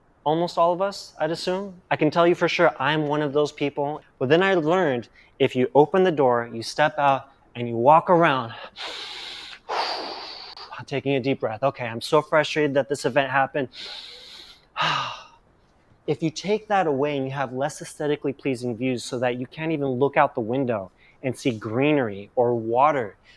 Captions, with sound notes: Almost all of us, I assume? I can tell you for sure I'm one of those people. But then I learned if you open the door, you step out and you walk around. *Inhales and exhales deeply* Taking a deep breath. Okay, I'm so frustrated that this event happened. *Inhales and exhales deeply If you take that away and you have less esthetically pleasing views so that you can't even look out the window and see greenery or water,